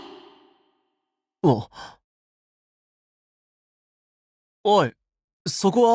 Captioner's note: ah…